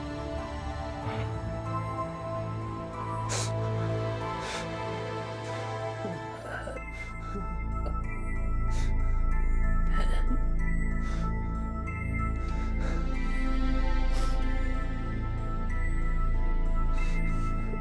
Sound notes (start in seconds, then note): 4.5 crying; 7.6 eerie orchestral music